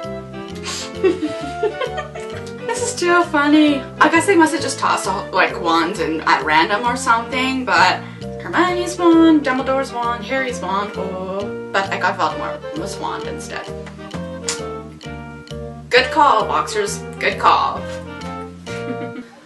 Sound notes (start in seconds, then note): 14.4 tongue click; 18.7 snickers